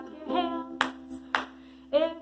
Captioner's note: claps